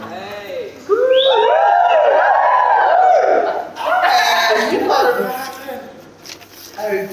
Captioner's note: cheers and whoops drown out speech onstage